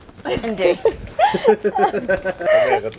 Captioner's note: laughing